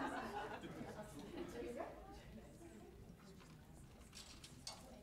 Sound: laughter; chatter

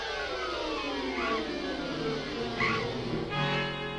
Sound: screeches

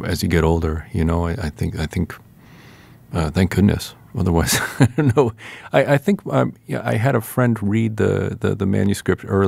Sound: laughter

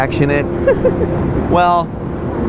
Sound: giggling

